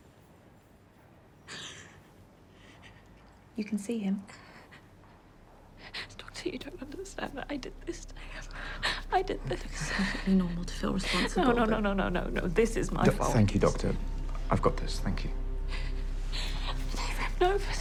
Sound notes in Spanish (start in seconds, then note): 1.4 sollozando suavemente